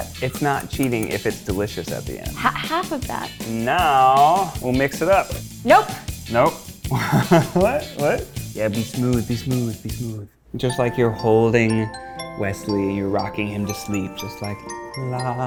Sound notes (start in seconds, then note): 6.9 laughs